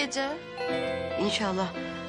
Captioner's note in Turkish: Kapı zili